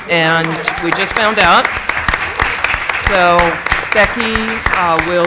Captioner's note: applause